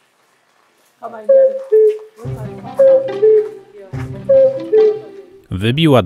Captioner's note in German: kukanie kukułki